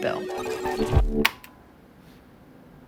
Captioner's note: click